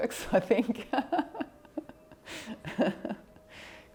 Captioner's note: laughs